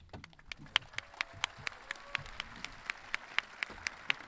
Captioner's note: audience clapping